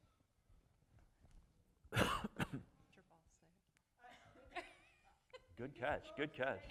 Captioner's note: laughter